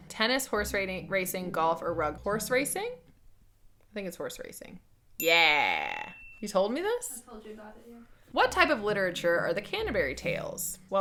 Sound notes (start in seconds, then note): 5.2 bell dings